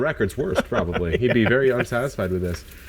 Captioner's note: laughing